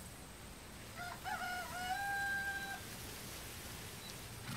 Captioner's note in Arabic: صياح الديك